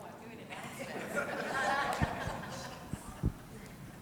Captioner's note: congregation laughing